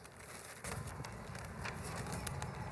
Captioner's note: papers flipping